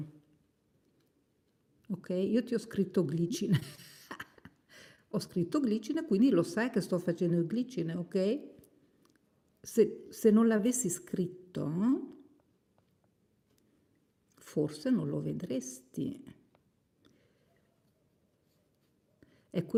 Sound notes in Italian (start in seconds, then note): 3.4 risate